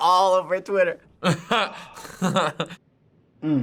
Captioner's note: laughs